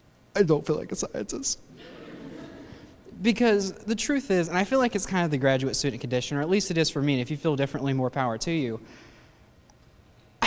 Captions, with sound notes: "I don't feel like a scientist." (laughter) Because the truth is, I feel like it's kind of the graduate student condition, or at least it is for me, and if you feel differently, more power to you.